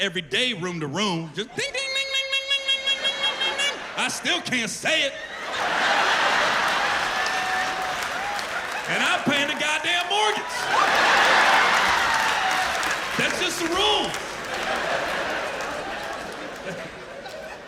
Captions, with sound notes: I hear the "N" word every day, room to room. Just, ding ding ding ding ding ding ding ding ding ding ding ding. I still can't say it! [laughter] And I'm paying the goddamn mortgage! [laughter] That's just the rules.